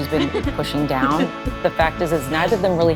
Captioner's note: both laughing